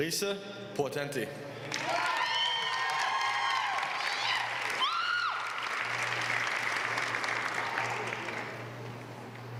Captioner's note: applause